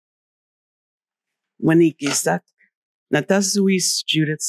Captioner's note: greeting in wampanoag